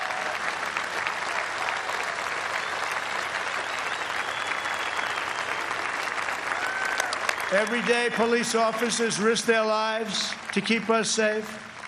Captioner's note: applause